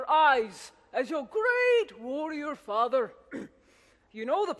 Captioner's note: clears throat